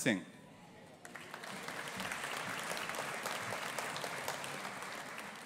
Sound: audience applauding

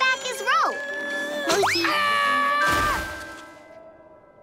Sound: screaming

